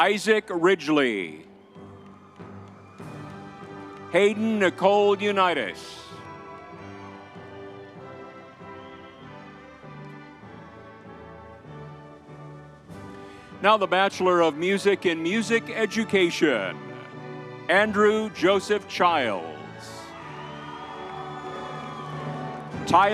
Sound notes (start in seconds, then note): 2.2 crowd cheering; 6.9 crowd cheering; 20.8 crowd cheering